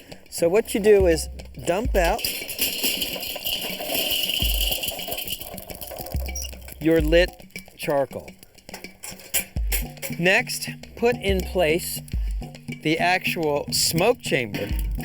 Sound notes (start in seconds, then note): 2.3 clanking